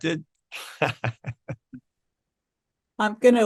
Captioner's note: laughs